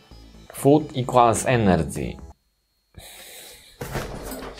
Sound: scoffs

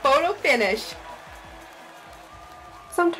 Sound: crowd cheering

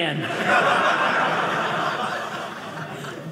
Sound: audience laughing

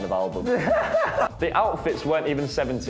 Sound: laughs

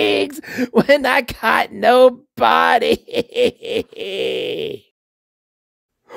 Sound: sobs

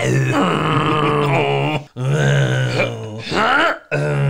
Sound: award Winning Gagging

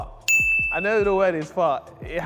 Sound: ding

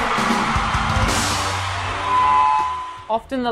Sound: audience applauding

